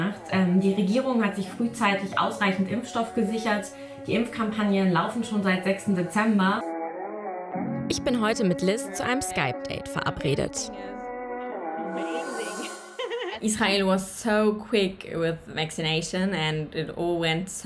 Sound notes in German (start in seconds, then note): 11.1 Relaxte Musik; 13.3 englisch